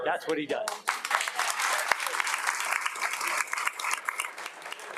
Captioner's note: everyone applauding